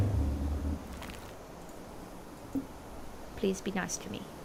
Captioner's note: triceratops 'social' roar sound